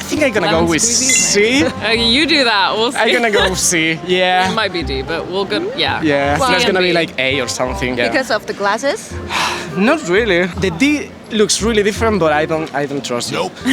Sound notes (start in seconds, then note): 9.3 sigh